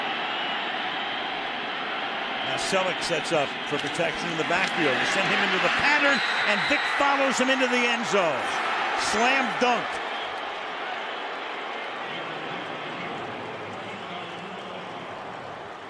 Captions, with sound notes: And Celek sets up for protection in the backfield and send him into the pattern. And Vic follows him into the end zone. Slam dunk! [cheering]